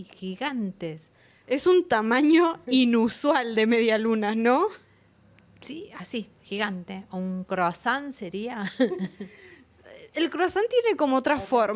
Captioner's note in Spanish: risas